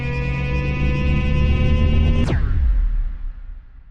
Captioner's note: the spaceship powers up and blasts off